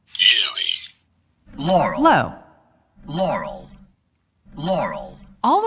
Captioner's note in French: la voix joue à basse fréquence